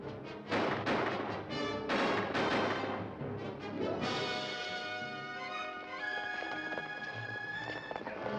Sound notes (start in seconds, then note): 0.5 guns firing